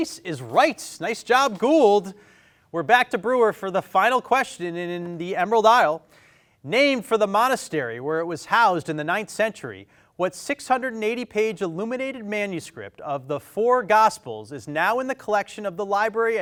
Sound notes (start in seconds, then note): none